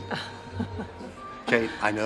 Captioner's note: Kate chuckles